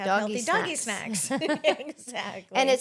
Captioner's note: laughing